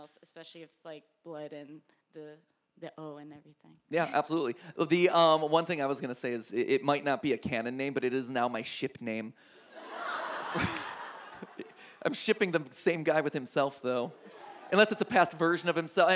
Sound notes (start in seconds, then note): 9.7 audience laughs